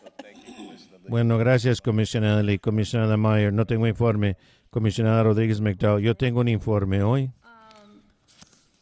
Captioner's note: laughter